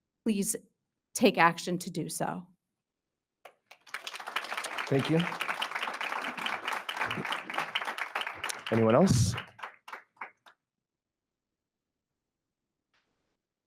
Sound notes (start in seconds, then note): 3.6 attendees applauding